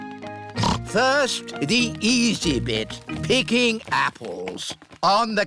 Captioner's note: snorts